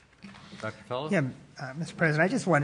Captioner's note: multiple voices speaking